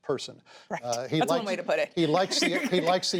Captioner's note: laughter